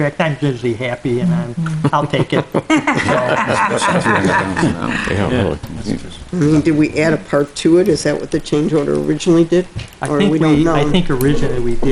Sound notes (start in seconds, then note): 1.8 board members laughing